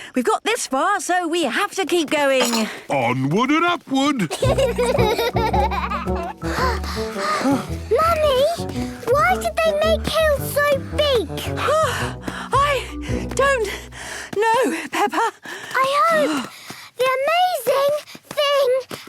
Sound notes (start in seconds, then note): 4.3 children giggling; 6.1 panting; 13.7 panting